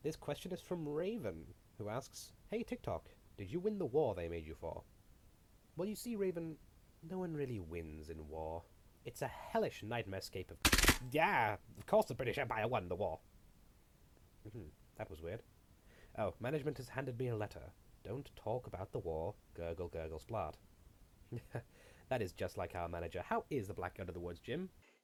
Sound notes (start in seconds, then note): 10.7 clockwork Cranking Sound